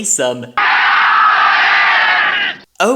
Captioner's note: shouting in unison